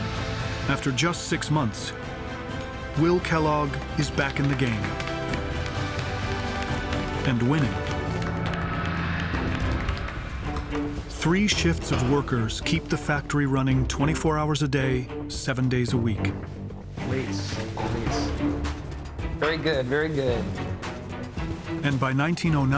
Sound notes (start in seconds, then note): 2.9 workers applauding